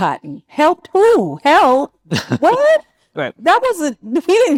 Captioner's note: laughs